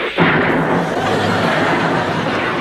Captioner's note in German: Schießerei